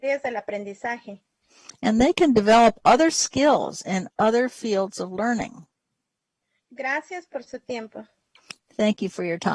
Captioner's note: speaking spanish